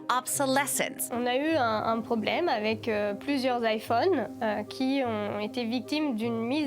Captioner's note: speaks in French language